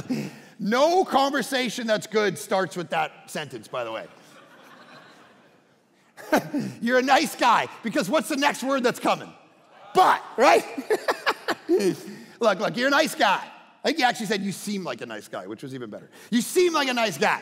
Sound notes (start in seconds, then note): 3.8 congregation laughing; 10.5 laughing